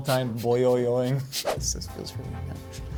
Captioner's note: air whooshing